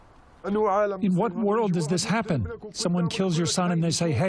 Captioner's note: through translator